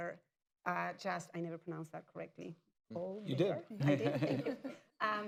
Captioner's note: laughter